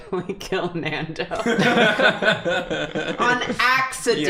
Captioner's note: laughter